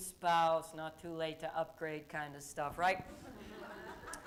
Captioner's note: laughter